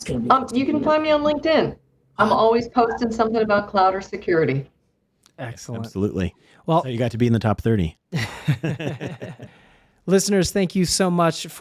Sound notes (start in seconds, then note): 8.1 both laughing